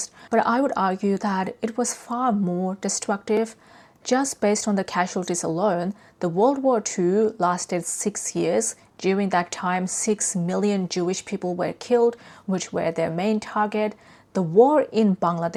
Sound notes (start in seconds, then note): none